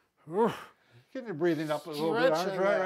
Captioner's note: groans